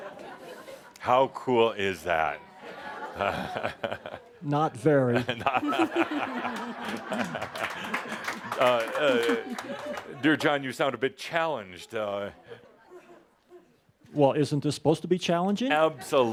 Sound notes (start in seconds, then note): 5.3 laughter and some applause